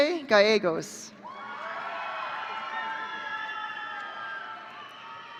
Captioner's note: audience cheering